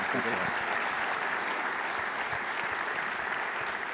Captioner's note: applause